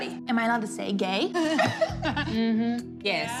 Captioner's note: laugh